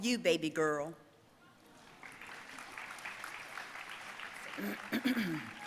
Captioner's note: audience applauding